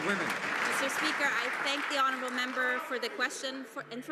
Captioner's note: some Applause